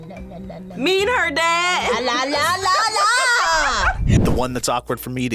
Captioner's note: laughs